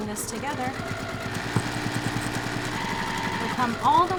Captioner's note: machine whirring